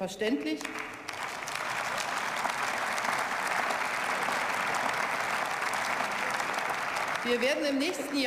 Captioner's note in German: Beifall